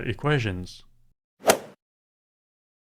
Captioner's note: swoosh